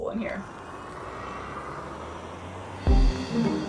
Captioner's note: car engine hums; upbeat music